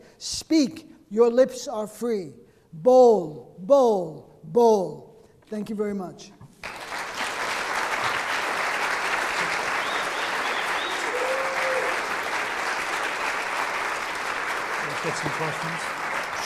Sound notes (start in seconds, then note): 6.5 audience clapping and cheering